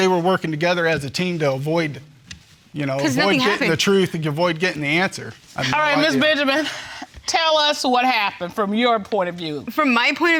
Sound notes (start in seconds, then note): none